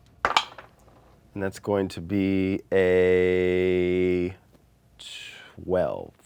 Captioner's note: dice roll